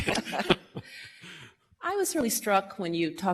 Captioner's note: laughter